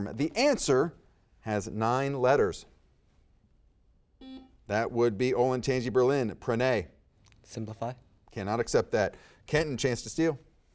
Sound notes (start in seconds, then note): 4.2 buzzer beeping